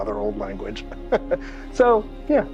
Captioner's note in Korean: 웃음